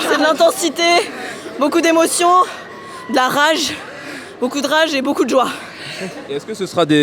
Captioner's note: laughs